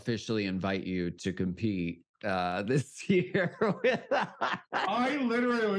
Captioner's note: laughs